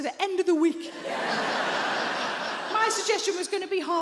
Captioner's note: audience laughing